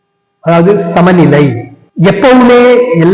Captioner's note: in Tamil